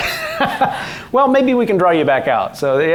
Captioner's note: laughing